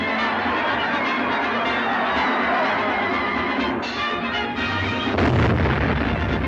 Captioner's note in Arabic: الجمهور يواصل الصراخ; موسيقى صاخبة مستمرة